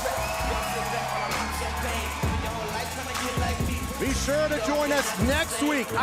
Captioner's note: crowd cheering